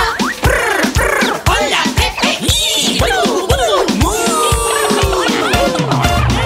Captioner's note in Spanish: Cacareo; Música alegre